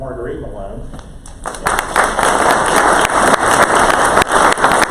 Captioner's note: crowd applause